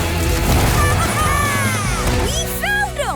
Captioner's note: squeaking